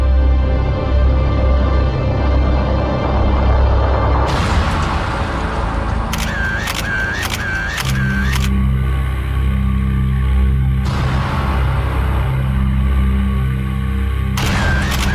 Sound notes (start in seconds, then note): 1.6 ominous music; 6.1 cameras clicking